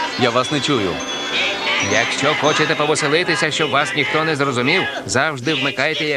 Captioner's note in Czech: naplno křičí